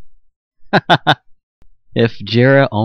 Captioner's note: chuckles